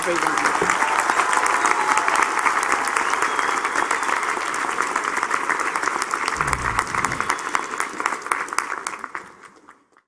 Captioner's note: applause